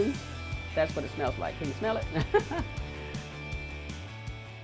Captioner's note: laughs